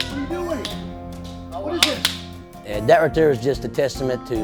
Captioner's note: clapping